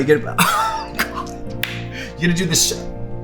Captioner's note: laughs